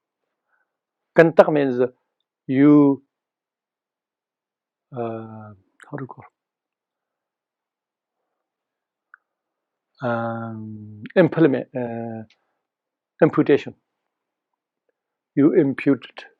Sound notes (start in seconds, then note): 1.0 tibetan